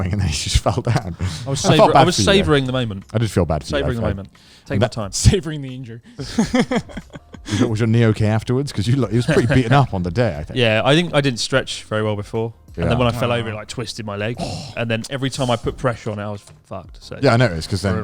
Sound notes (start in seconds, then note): 6.2 laughs quickly